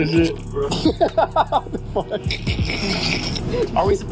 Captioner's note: laughing